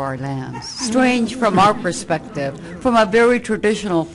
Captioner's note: laughter from audience